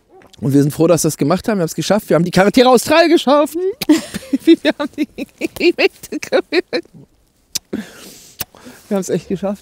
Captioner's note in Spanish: risas